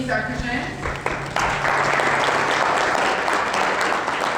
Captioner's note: applause